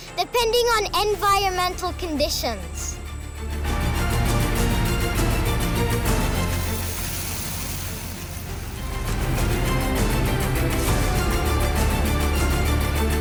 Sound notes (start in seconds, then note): 6.6 rustling, fluttering